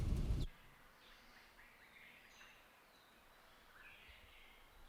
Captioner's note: birds calling